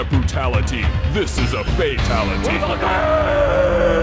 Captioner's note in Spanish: Grita